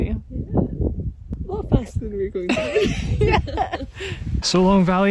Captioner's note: laughing